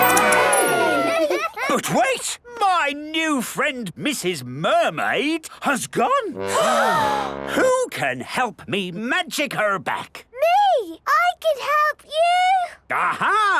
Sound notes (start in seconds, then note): 6.4 all gasp